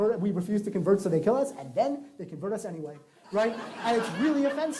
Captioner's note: laughter